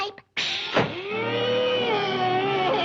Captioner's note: door slams